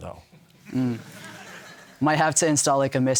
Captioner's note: audience laughter